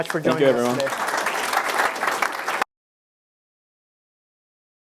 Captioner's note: audience applauding